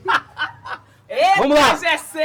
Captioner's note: laughter